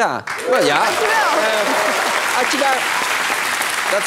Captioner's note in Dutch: applaus